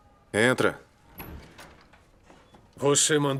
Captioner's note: door opens